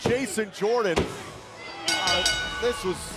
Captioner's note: bell ringing